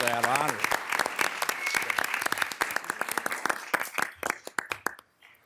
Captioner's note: everyone applauding